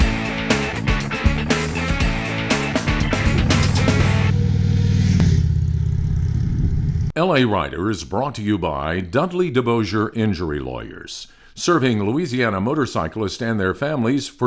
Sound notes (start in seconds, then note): 4.2 motorcycle engine roaring